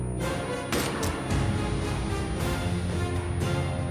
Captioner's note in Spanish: detonación de disparo